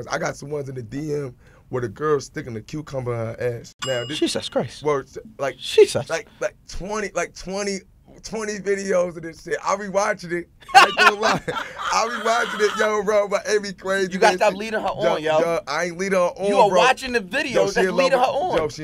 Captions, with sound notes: I got some ones in the DM where the girl's stickin' a cucumber in her ass. (dinging) - Jesus Christ. - Like 20 videos of this shit. I'll be watchin' it. (laughing) Yo bro, it be crazy. - You gotta stop leadin' her on, yo. - I ain't leadin' her on bro. - You are watchin' the videos, that's leadin' her on.